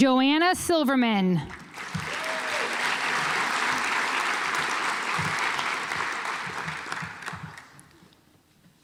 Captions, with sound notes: Joanna Silverman (audience applauds)